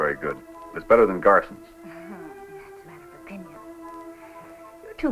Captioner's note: snickers